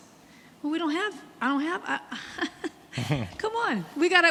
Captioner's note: laughs